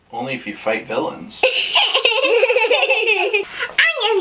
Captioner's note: laughing